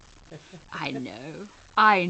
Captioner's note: laughs